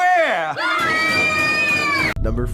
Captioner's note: children scream